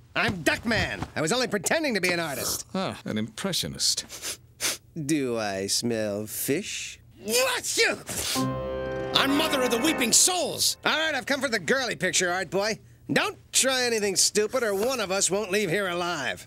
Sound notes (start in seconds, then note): 4.0 sniffing; 7.1 sneezing